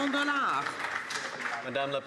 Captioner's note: some Applause